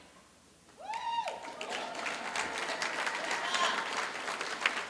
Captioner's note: applause